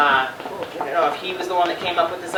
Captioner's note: none